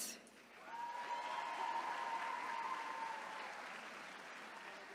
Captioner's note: attendees cheering